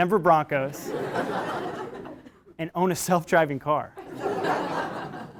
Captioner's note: laugh